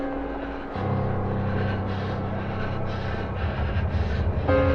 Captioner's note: Ura breaths abnormally